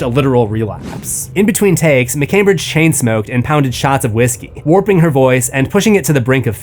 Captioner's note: warping